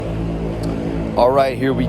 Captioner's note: engine roaring